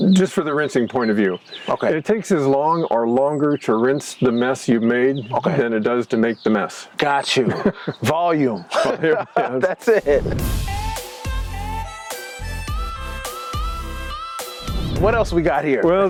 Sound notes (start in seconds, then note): 8.5 chuckles; 9.6 upbeat music